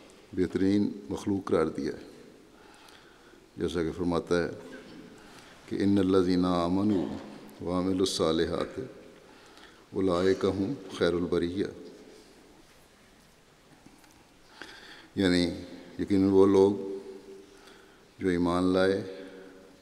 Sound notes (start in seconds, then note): 5.7 Arabic